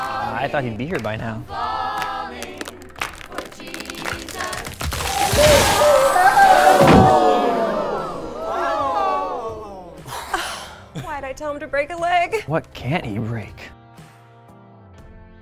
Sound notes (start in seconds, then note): 3.0 ceiling cracking; 6.7 thuds; 6.8 congregation gasps